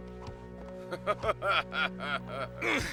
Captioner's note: laughter